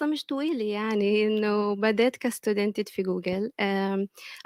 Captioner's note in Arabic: لغة أجنبية